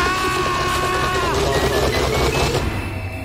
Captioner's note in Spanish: grita